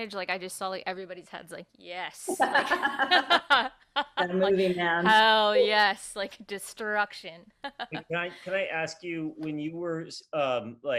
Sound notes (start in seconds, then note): 2.2 chuckles; 4.2 laughing; 7.6 laughing